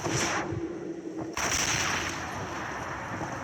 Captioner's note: sounds of shooting and explosion; sounds of jumping horse